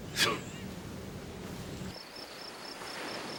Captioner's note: crickets chirping; surf rustling